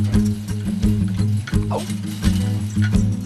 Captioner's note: yelps